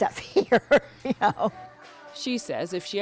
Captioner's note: laughter